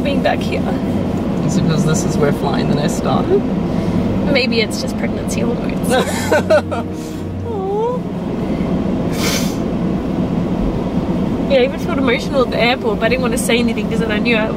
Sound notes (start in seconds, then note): 5.9 laughs